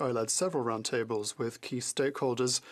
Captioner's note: speaking French